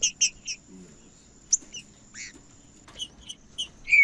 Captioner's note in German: trinca ferro cantando